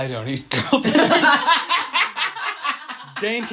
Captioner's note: everybody heartily laughs